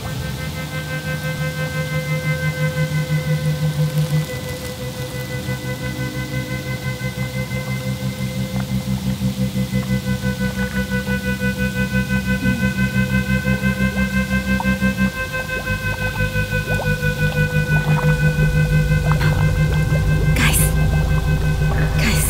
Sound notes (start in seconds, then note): 0.2 eerie music; 4.0 water gurgling